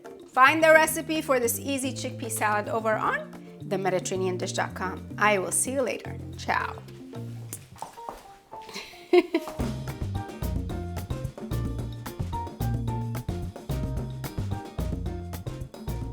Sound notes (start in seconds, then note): 8.6 bright upbeat music; 8.7 laughs